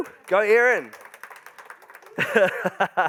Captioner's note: crowd applauding; laughs